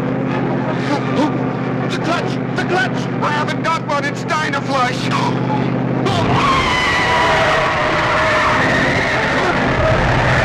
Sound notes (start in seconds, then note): 5.9 tires screeching